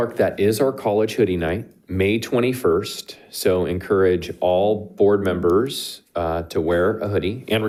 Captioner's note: none